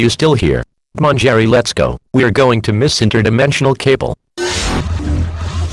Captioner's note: portal noise